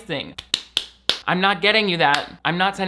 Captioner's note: hands slapping